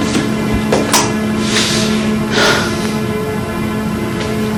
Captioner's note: Ben breathes deeply